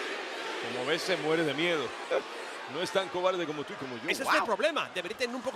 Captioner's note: laugh